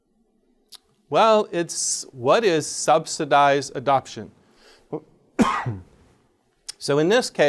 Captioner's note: coughs